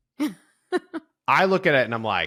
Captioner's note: chuckles